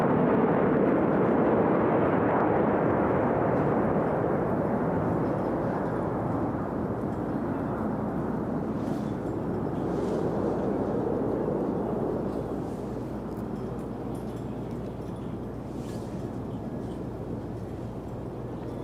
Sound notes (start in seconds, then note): 5.3 jet engine